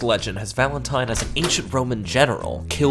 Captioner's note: door clicks